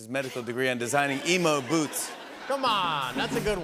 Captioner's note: laughter